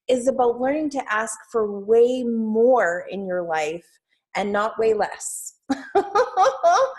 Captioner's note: laughs